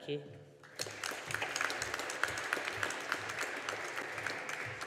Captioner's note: audience applauding